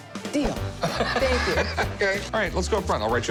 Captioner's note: laughing